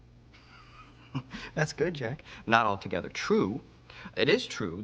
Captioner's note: laughs